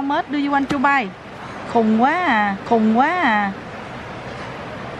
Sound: speaking Vietnamese

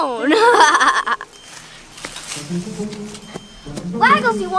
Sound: Evil Assistant laughs

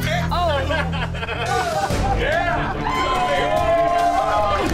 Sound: laughing and cheering

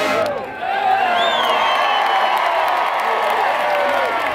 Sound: cheering

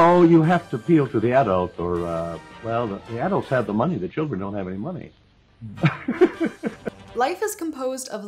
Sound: laughter

